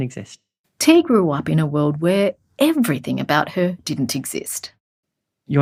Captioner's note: voiceover